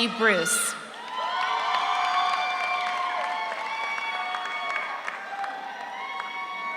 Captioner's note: audience cheers; audience applauds